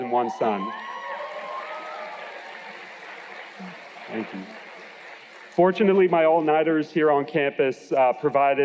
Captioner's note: cheers and Applause